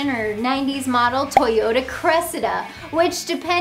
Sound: graphics pop

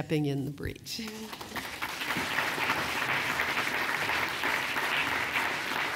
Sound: applause

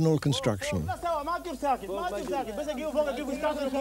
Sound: non-english speech

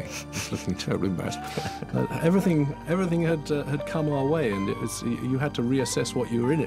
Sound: laughing

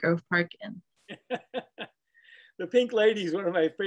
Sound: laughing

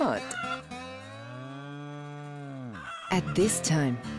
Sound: chickens squawking; cow mooing

